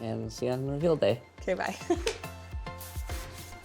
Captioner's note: laughs; bright music